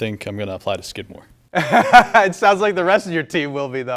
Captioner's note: laughs